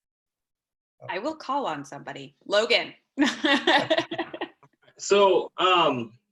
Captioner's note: laughter